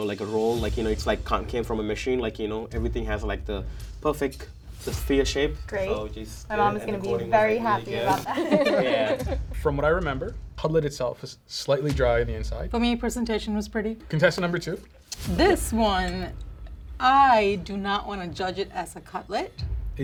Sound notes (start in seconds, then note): 8.0 contestants laugh